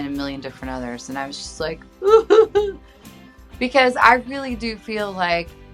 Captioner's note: sobs